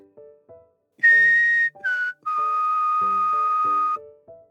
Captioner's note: tweet tweet tweet